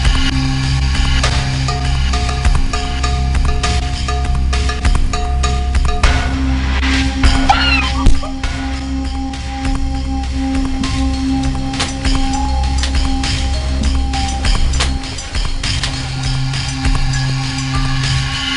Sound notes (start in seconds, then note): 7.4 screaming; 8.4 thudding; 10.9 intense music